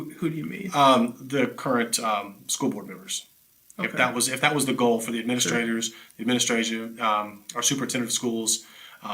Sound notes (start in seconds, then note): 5.4 chuckles